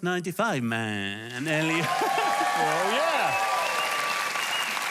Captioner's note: applause